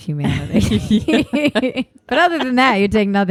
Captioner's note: laughing